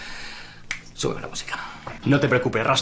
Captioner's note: clicks his fingers